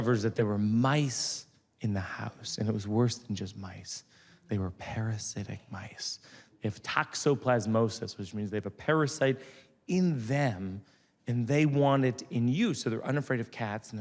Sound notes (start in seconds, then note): none